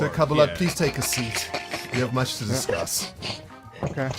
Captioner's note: crowd snickering